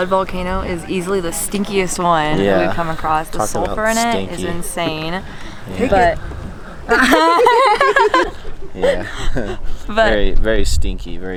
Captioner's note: laughing